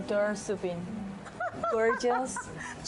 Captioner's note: laughing